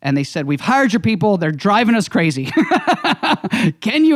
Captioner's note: laughing